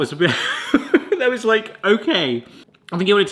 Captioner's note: laughing